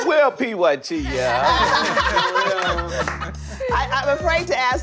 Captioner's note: laughter